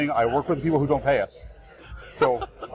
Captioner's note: laughs